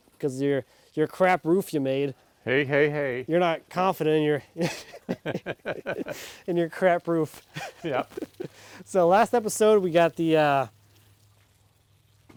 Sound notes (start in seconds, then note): 4.6 both laughing